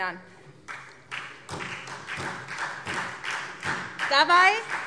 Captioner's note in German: Beifall SPD